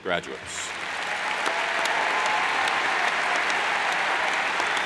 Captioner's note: cheers and applauds